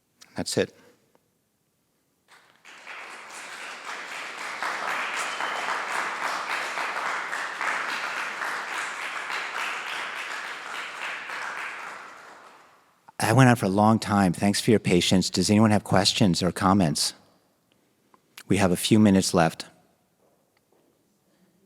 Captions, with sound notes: That's it. [applause] I went on for a long time. Thanks for your patience. Does anyone have questions or comments? We have a few minutes left.